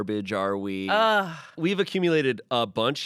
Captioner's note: Amanda groans